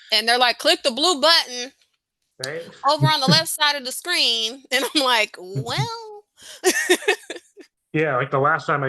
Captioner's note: laughs